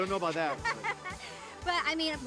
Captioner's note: laughing